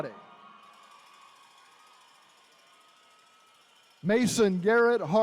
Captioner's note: attendees cheering